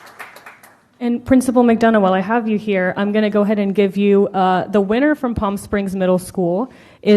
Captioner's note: applause